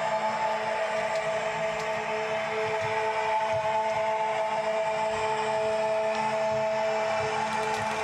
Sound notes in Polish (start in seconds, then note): 0.6 Aplauz